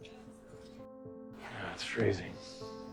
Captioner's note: voiceover